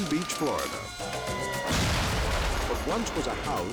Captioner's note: fireworks exploding; sirens wailing